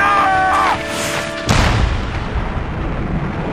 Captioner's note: cannon booms